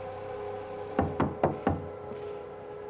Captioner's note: knocking at door